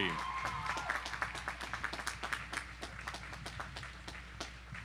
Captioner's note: audience applauding